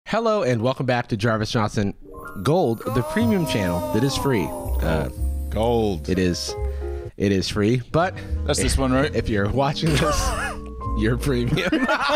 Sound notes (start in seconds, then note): 2.9 disembodied voice